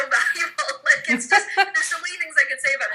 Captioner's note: laughs